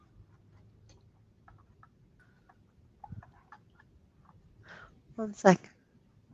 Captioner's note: silence